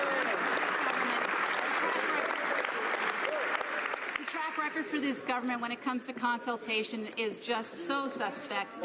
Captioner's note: some Applause